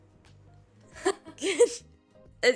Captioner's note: laughs